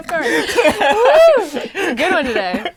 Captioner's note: giggling